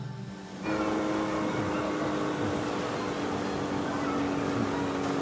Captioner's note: boat motors humming